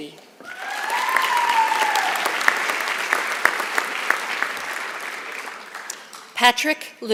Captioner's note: applause